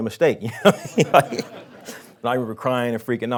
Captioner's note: laughing